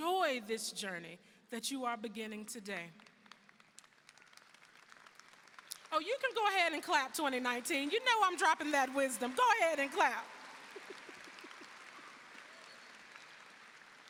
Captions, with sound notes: - Enjoy this journey that you are beginning today. (audience applauding) Oh, you can go ahead and clap, 2019. You know I'm dropping that wisdom. Go ahead and clap. (laughs) (audience applauding)